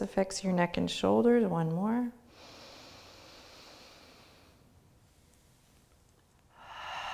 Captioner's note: breathes deeply